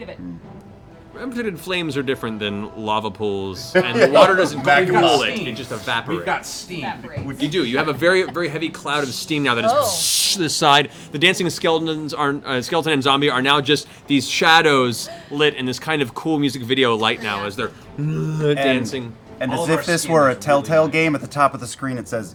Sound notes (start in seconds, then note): 9.9 steam sound; 18.0 groan